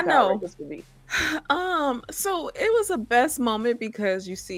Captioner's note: sighing